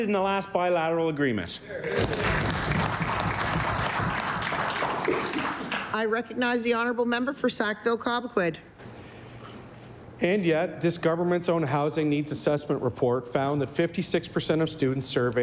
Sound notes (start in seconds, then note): 6.2 applause